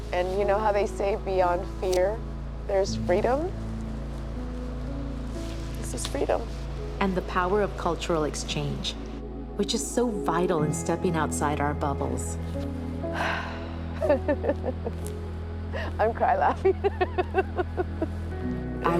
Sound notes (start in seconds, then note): 13.2 sighs; 14.1 laughs